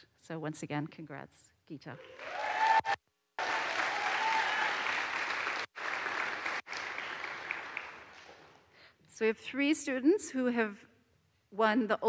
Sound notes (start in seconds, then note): 3.4 audience cheers; 3.4 audience applauds